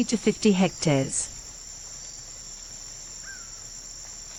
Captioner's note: forest sounds